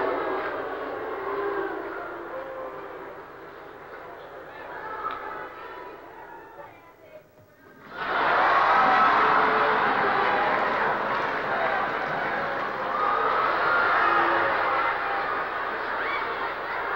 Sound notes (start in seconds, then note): 8.2 cheering